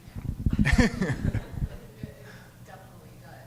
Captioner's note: laughing